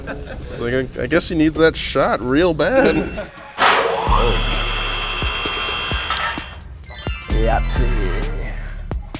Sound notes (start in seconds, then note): 3.0 machine humming; 4.0 upbeat music